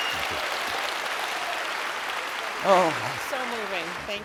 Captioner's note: audience applauds